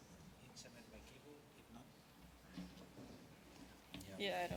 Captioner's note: chatter